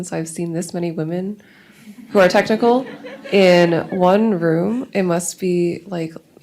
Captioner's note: laughs